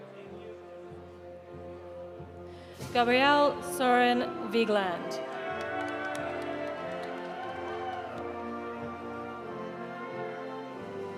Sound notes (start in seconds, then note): 5.0 audience applauding; 5.0 audience cheering